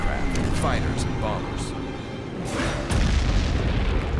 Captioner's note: explosions